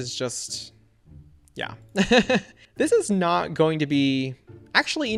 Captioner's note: laughs